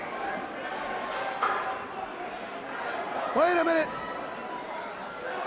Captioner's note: crowd chatter